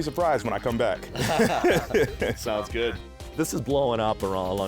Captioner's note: both laugh